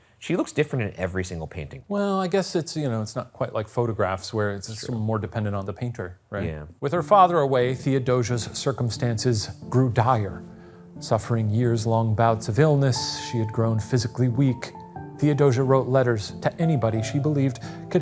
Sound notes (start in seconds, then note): none